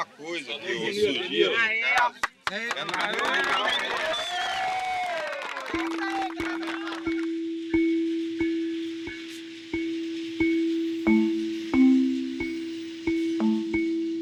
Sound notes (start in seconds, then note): 1.9 People applauding Benilde